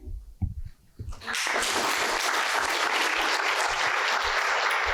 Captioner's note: applause